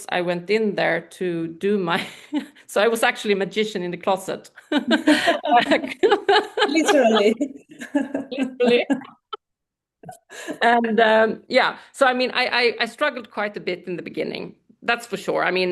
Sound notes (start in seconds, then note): 4.6 laughter